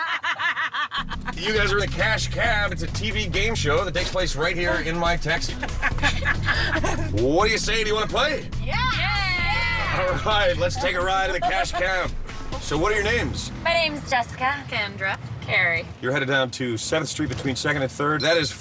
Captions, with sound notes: [ LAUGHTER ] YOU GUYS ARE IN THE CASH CAB. IT'S A TV GAME SHOW THAT TAKES PLACE RIGHT HERE IN MY TAXI. [ LAUGHTER ] WHAT DO YOU SAY? DO YOU WANT TO PLAY? YEAH! YEAH! YEAH! ALL RIGHT. LET'S TAKE A RIDE IN THE CASH CAB. SO WHAT ARE YOUR NAMES? MY NAME IS JESSICA. KENDRA. CAREY.